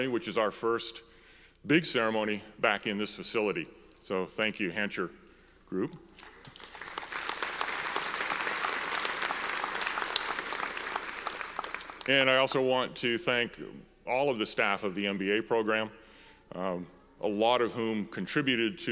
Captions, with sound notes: which is our first big ceremony back in this facility, so thank you Hancher Group. (audience applauds) And I also want to thank all of the staff of the MBA Program, a lot of whom contributed